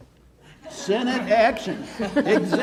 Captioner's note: audience laughs